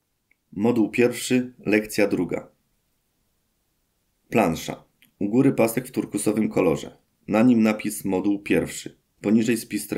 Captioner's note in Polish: Głos męski z offu, audiodeskrypcja planszy